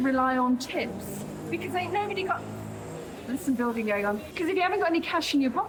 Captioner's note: loud drilling